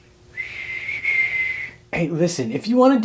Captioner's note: whistles